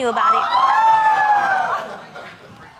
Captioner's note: audience exclaims